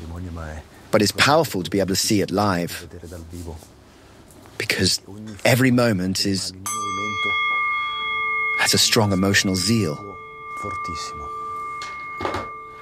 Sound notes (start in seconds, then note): 6.5 ringing